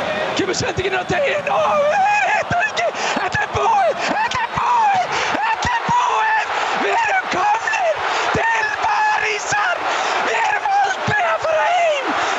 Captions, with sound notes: - The pass, they miss! [Crowd roars] - It's over! It's over! It IS over!! - We're going to Paris! We are never going home!